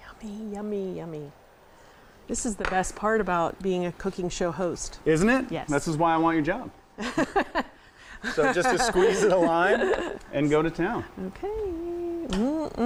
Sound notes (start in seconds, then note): 8.2 laughing